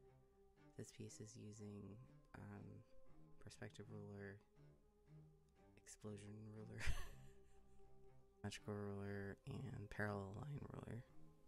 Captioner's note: laugh